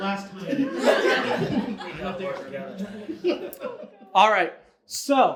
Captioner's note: audience laughs